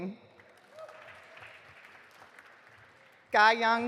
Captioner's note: audience applauding